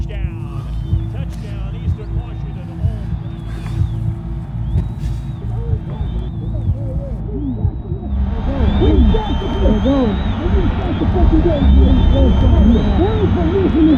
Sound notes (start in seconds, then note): 4.3 crowd cheering